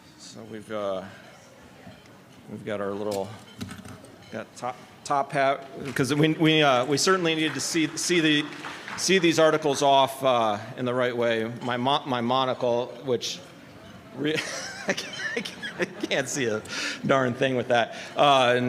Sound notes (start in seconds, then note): 14.2 laughter